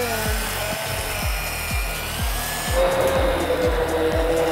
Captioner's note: machine whirling